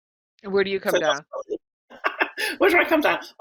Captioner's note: voice muffling; laughing